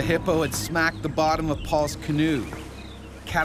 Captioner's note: voiceover